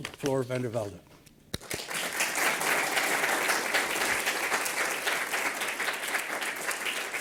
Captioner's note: applause